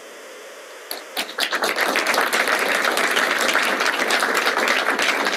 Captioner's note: applause